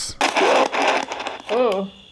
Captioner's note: static crackling